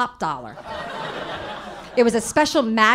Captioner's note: audience laughing